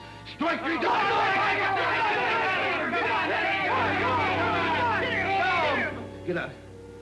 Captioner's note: men yelling